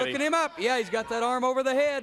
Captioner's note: crowd chatter